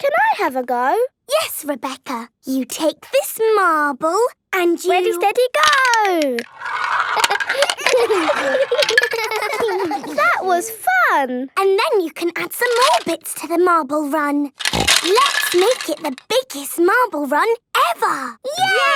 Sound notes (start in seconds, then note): 7.8 all giggling